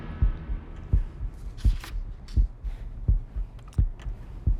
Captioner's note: heart beats